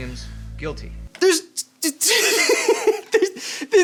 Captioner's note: laughing; stammering